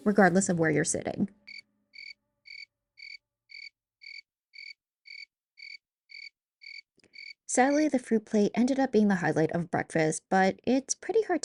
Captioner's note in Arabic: صوت الصراصير